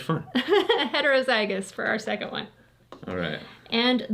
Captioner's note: laughs